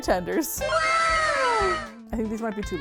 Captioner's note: "wow!" sound effect